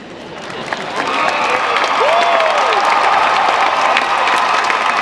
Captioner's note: audience cheering